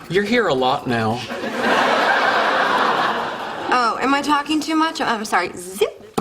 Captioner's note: laughter